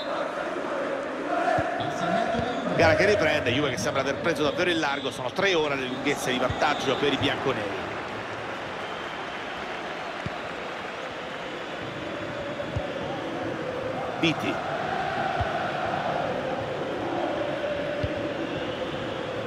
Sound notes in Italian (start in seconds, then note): 9.5 Applauso